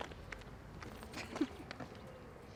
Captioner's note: chuckles